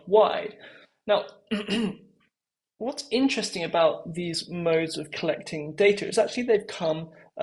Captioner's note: cough